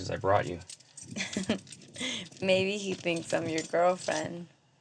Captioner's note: laughs